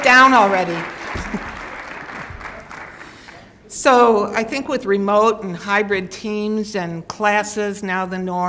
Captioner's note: laughs